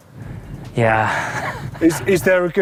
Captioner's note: laughs